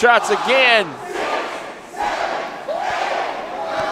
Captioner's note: crowd